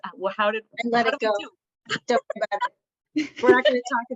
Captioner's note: laughter